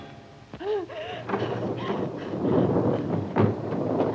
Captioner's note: panting, strained breathing